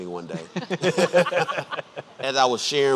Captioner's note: laughing